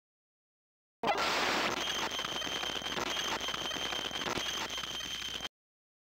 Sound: sound of alien

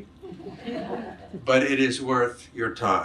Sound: audience laughs

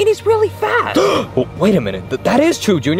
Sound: Mario gasping

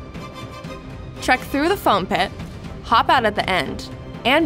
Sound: voice-over

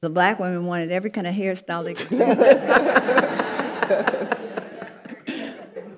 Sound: panelists laughing

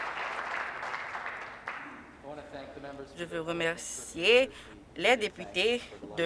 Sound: applause

